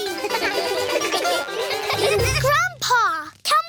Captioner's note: all giggle